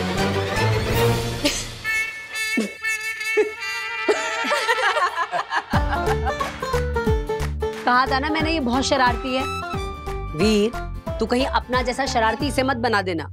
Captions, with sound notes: [laughing] Didn't I tell you he's very naughty? Veer, don't make her as naughty as you.